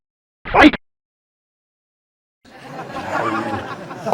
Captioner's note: game voice glitches; audience laughing